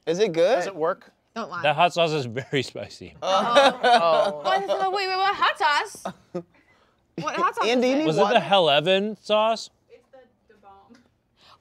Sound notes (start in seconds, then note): 3.2 laughing; 3.2 group groaning